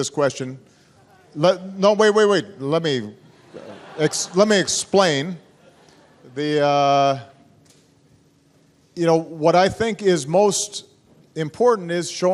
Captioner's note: laughter